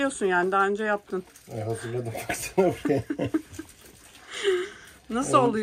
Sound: laughter

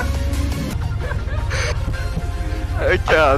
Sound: both laughing

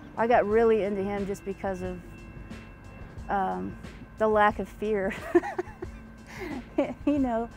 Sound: laughs

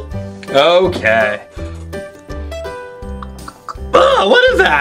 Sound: imitates swallowing liquids

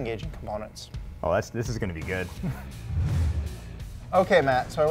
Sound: laughs

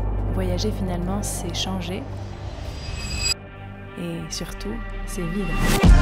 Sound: lady speaking foreign language

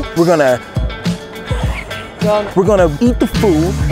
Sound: laughs

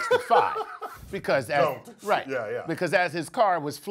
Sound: laugh

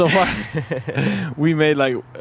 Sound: both laugh

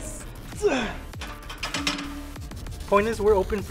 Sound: man grunts

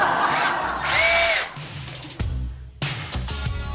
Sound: audience laughing; drill whizzing; motivational rock music

